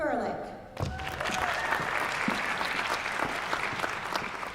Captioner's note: applause